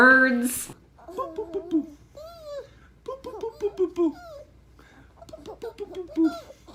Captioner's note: dad mimics popping sound; giggles